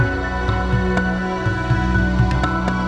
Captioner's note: none